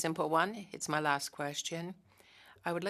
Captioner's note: speaking French